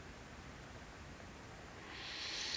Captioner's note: breathing